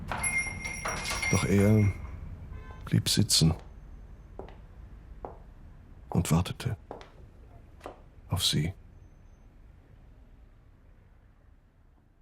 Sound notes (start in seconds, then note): 0.0 doorbell jingles; 4.3 footsteps approaching